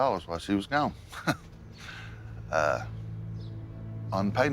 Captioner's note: chuckles sardonically